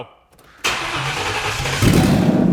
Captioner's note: engine sputters loudly; engine revs loudly